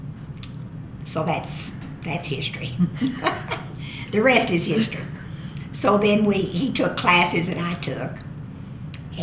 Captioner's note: laughs